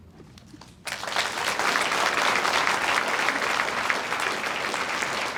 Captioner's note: audience applauds